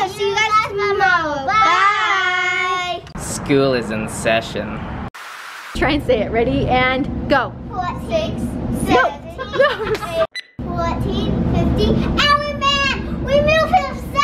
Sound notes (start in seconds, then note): 9.3 laughter